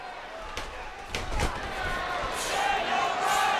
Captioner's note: wrestlers thudding